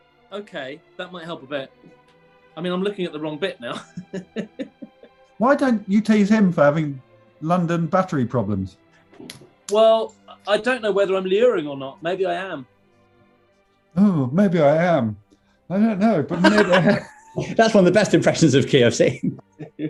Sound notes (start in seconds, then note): 3.6 laughing; 16.3 laughing